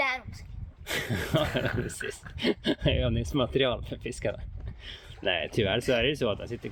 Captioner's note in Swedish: skratt